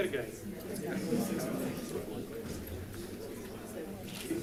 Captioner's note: crowd chatting